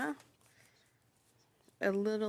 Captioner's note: speaking French